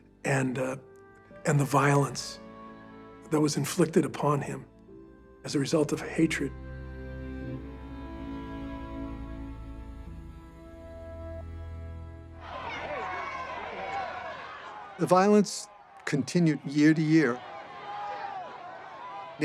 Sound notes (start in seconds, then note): 12.4 crowd shouting